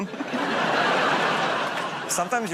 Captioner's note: laughter